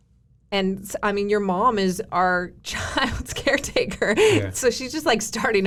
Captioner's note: giggles